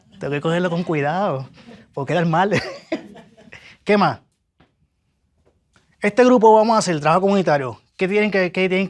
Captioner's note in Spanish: risas